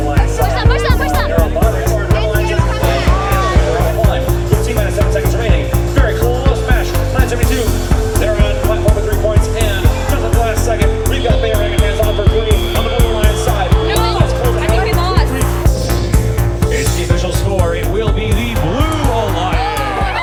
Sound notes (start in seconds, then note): 11.1 horn blares